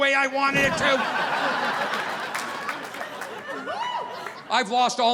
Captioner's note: audience laughing